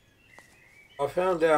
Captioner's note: bird song